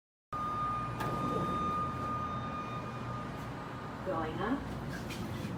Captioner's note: golpes del ascensor